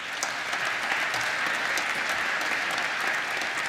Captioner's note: applause